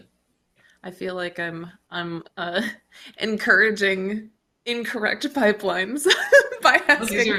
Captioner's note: chuckles